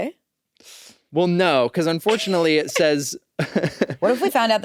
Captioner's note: laughs